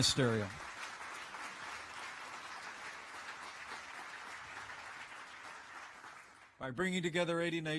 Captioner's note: applause